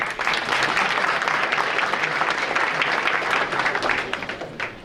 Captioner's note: audience applauding